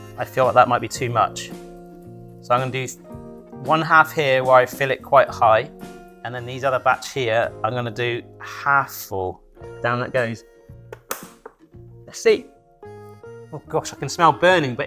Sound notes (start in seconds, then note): 10.9 cover snaps